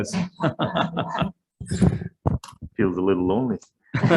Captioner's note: Senators chuckle